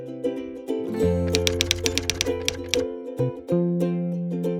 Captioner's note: typewriter tapping